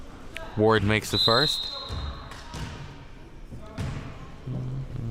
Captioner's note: whistle chirping